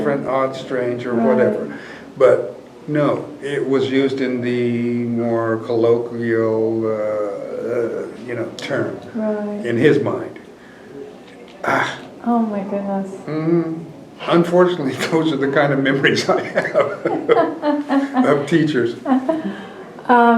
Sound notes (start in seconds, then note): 16.1 laughter